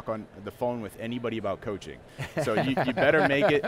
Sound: laughs

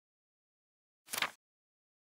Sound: paper flips

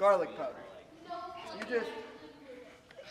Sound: clamor in the background

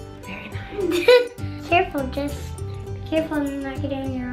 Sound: laughing

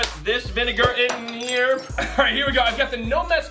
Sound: crash

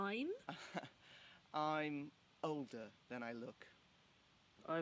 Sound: laughs

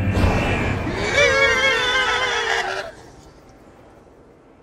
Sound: monster Shrieks

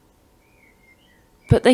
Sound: chirping birds in the background

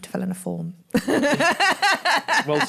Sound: laughs

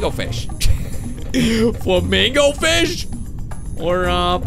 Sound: laughs

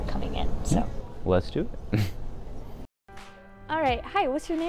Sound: chuckling

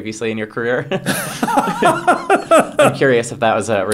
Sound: Stephen laughs

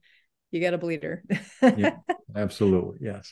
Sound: laughing

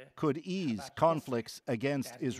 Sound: speaking alternate language

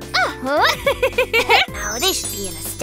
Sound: Kayla laughs

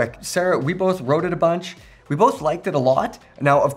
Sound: none

